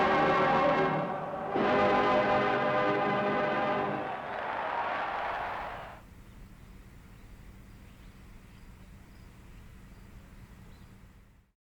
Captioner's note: cheers and applause